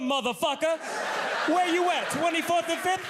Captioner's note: audience laughs